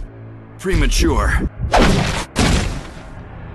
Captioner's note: Smacks Wesker